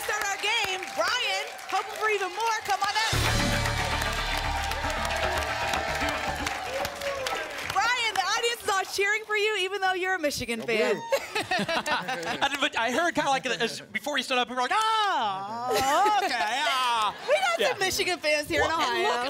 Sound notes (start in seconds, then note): 5.1 applause and cheering cont; 11.0 laughter